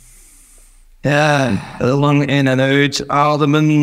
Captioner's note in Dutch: Uuuuh